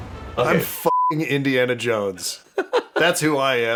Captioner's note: beeping